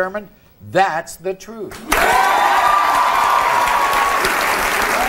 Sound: audience applauding

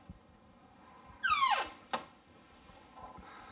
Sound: door creaking

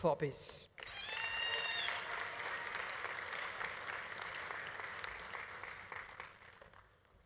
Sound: audience applauding; audience cheering

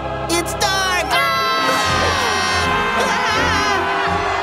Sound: screaming

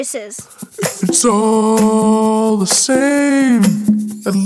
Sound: low voice

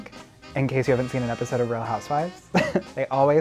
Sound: laughs

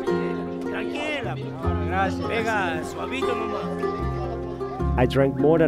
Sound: speaking in foreign language

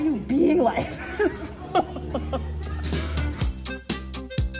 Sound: laughs; upbeat music

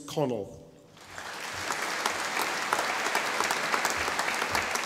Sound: audience applauding

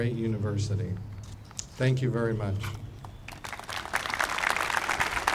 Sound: applauding

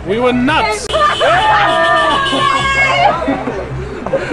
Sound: horn Blares

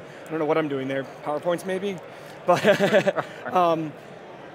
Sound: laughing

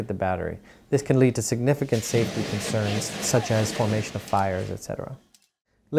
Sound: fire blowing in wind

